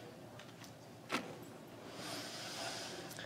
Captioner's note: none